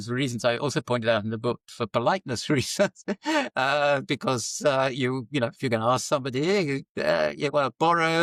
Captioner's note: laughs